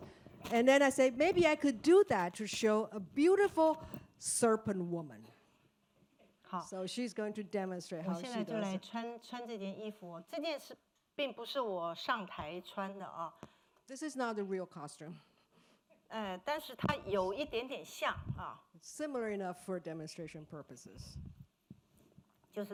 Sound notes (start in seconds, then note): 9.5 speaking Mandarin; 16.4 speaking Mandarin; 22.4 speaking Mandarin